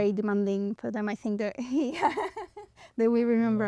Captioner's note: laughs